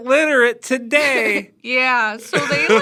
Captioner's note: laughs